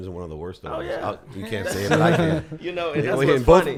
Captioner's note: chuckles